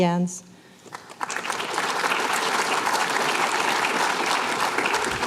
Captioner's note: applause